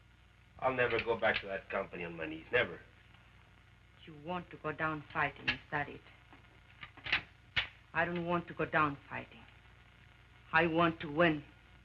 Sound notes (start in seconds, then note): 6.8 gun clicks